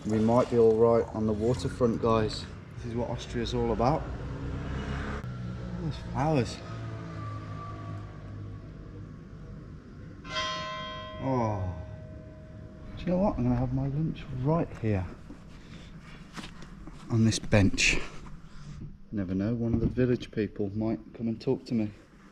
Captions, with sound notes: We might be all right on the water front, guys. This is what Austria's all about. Look at those flowers. (church bell tolling) oargh... Do you know what? I'm gonna have my lunch right here. On this bench. Never know, one of the village people might come and talk to me.